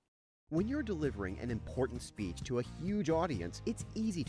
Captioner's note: voiceover